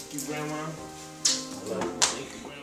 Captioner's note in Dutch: smooches kus